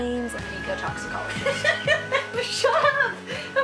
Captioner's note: laughs